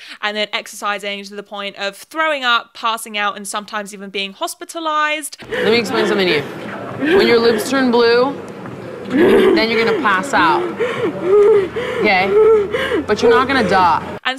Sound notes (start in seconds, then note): 5.4 contestant panting; 9.0 contestant panting